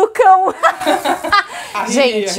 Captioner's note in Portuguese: Risos